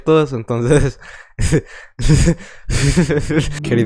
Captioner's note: maniacal laughter